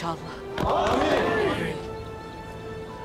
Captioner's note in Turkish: Hep bir ağızdan